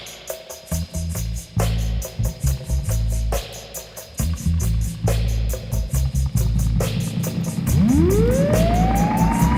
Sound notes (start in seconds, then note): 0.0 drum beat; 1.4 engine revving